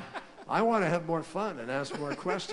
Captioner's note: laughter